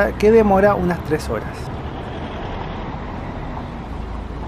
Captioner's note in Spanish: sonido del bus